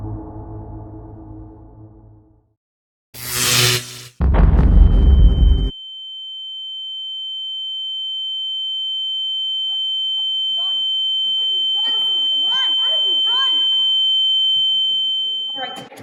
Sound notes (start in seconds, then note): 3.2 electric switches flip, booming explosion follows; 7.0 loud ringing; 11.4 distant shouting